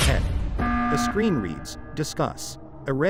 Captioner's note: alarm sounds